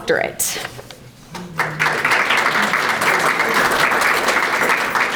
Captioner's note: audience applauding